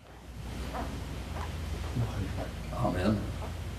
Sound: footsteps clomping

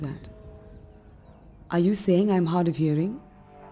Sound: airplane engine roaring

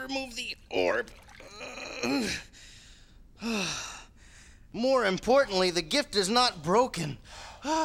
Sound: sigh

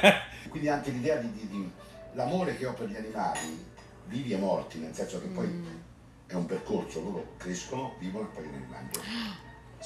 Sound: speaking Italian

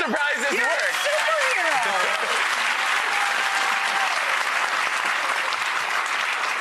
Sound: audience applause

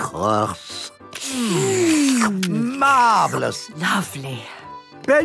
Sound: slurping

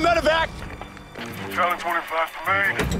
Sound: radio chatter

